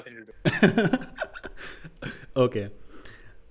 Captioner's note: laughing